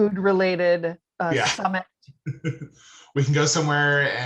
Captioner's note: laughing